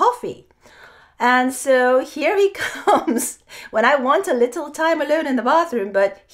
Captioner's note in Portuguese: risos